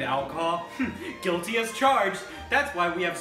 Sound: chuckles

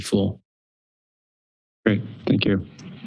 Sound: silence

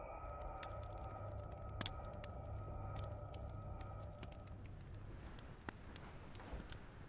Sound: tense ominous music; fire crackling

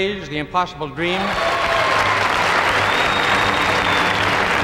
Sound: audience applauding

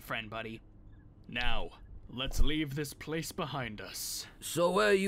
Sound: dramatically

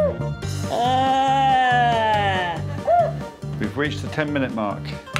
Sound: muttering; whistle blows

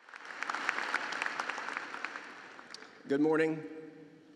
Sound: applause

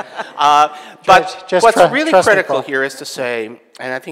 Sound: audience laughing

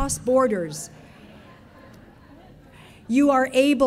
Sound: audience laughing

